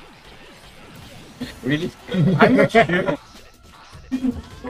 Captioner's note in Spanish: se ríe como villano